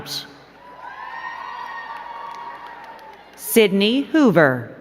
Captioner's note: crowd cheering and clapping